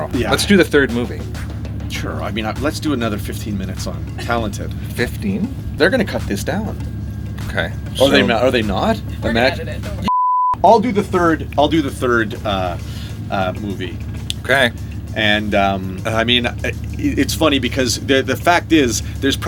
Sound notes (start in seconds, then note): 10.0 screen beeps